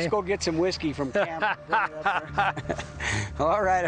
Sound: laughs

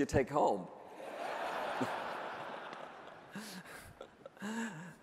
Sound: audience laughing

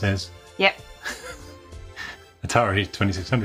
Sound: laughs

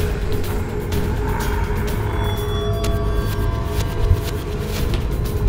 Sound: panting & breathing hard

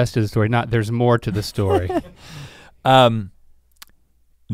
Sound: chuckles

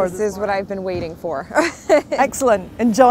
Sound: laughs

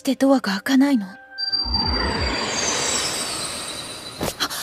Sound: the sound of something appearing

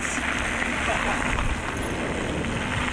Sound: laugh

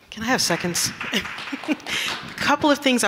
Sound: audience clapping

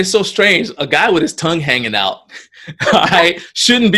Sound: laughs

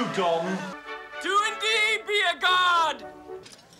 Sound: shouting

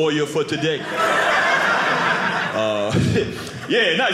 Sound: audience laughing

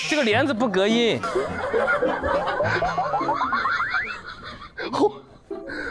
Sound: haHaHa

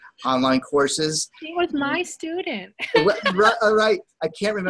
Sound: laughs

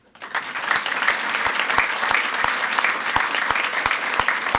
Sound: audience applauds

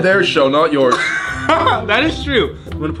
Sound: laughing

